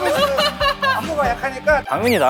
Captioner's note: scared